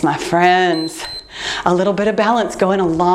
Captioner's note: timer beeps